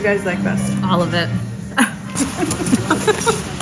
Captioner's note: laughing